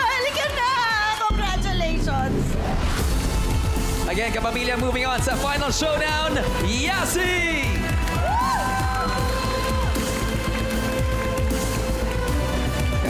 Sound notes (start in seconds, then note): 8.3 cheering, applause; 9.9 triumphant music playing